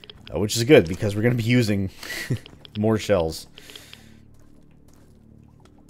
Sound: chuckles

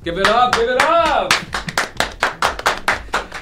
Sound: clapping

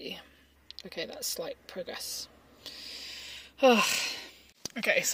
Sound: exhales loudly

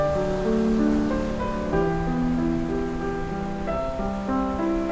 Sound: ocean roaring

